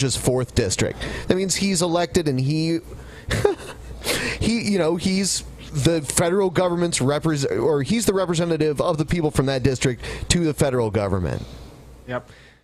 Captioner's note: giggles a tiny bit